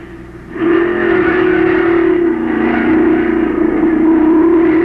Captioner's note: engines roaring